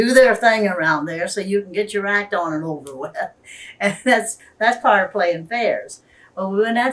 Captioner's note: laughs